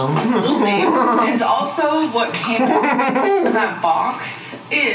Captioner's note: laughing